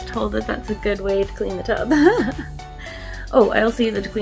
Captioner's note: laughs